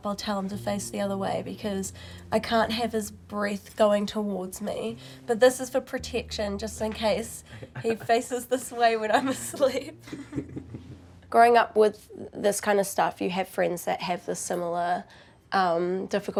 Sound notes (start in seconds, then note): 7.5 chuckles; 9.2 both giggle